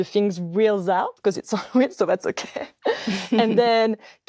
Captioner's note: laughs